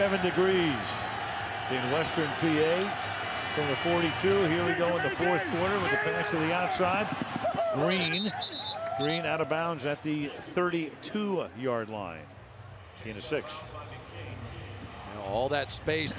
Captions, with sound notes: 37 degrees in Western PA. From the 42, here we go in the fourth quarter with the pass to the outside. Green. [whistles] Green out of bounds at the 32-yard line, gain of 6.